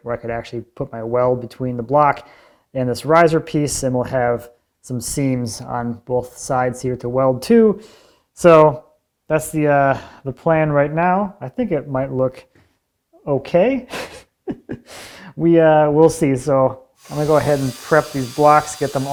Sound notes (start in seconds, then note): 14.4 chuckles